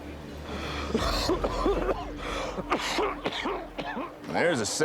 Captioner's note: coughing